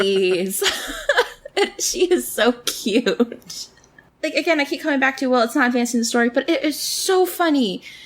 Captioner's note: laughs